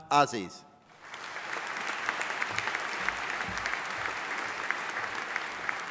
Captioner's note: audience applauding